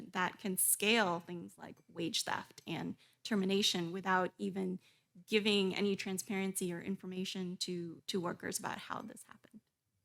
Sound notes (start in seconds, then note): none